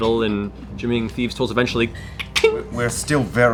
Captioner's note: click